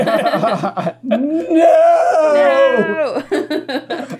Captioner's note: laughter; laughter